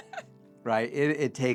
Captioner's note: laughing